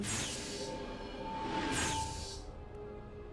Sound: whoosh

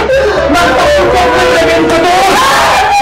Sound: Emman shrieks

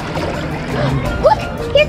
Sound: gasps

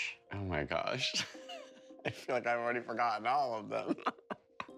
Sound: laughter

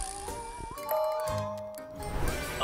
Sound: dinging

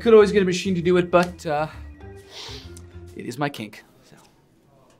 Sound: sniffs

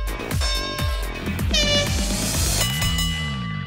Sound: horn blowing

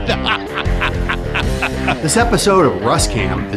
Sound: laughter

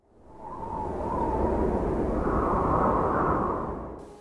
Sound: wind howling

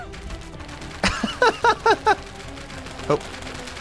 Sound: laughs

